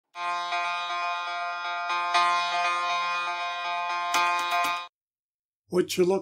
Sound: buzzing

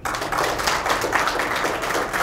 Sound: applause

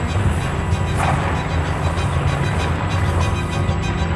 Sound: wings flapping

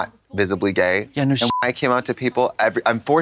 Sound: beep

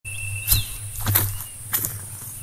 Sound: footsteps

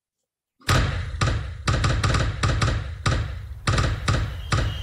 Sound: exploding firework sound effect

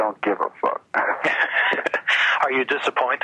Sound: laughing

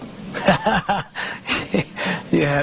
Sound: laughs

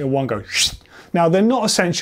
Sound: whistle

